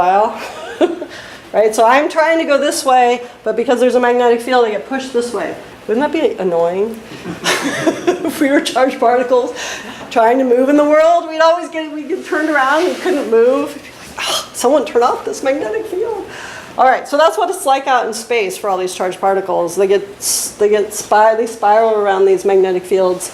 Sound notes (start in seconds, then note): 7.1 laughs